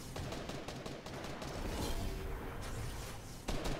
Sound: guns firing

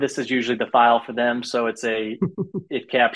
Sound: chuckles

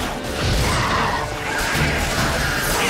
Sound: flames whoosh

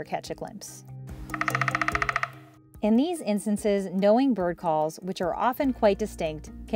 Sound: Nuthatch call; sound of a woodpecker drilling

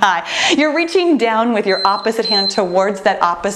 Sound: timer beeping

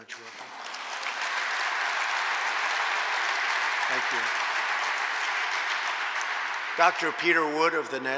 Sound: applause

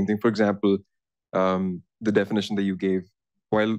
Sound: none

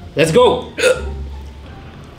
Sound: hiccup

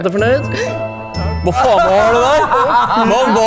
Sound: guys laugh

